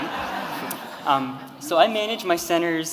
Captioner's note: audience laughing